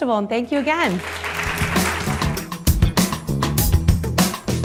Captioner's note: audience applauding; upbeat music